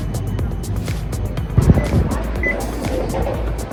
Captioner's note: passes beep